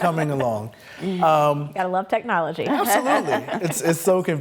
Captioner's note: laughs